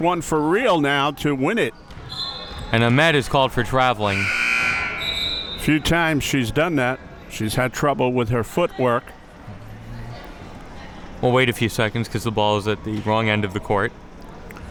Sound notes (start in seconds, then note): 4.1 buzzer sounding; 4.1 whistle being blown